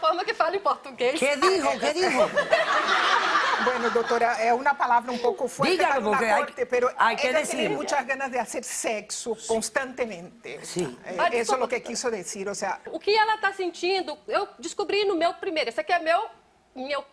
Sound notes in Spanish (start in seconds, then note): 1.4 risas; 15.4 habla en portugués